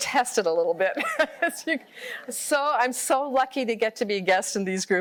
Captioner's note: laughter